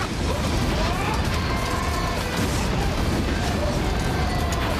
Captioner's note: yelling